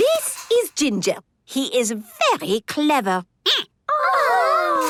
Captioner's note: squeaking